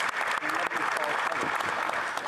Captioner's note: applause